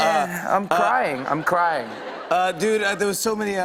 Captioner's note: laughter